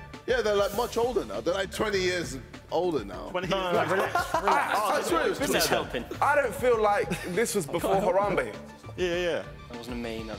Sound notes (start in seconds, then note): 3.2 chattering